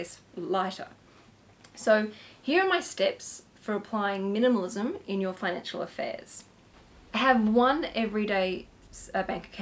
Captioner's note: steps